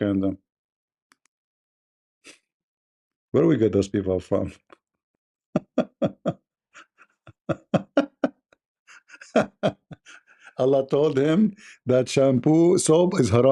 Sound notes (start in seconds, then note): 6.7 Ketawa